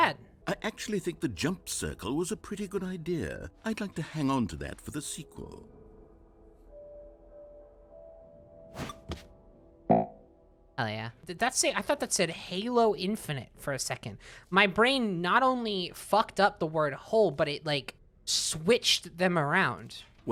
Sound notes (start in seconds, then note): 9.9 jump, counter beeps, then plays an "error" sound